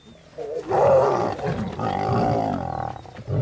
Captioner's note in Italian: ruggito